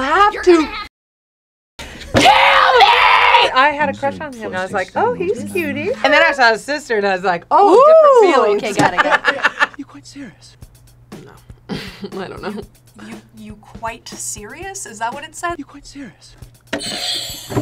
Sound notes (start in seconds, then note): 7.8 laughs; 11.7 laughs; 17.1 bell rings